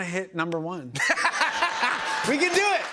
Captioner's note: laughter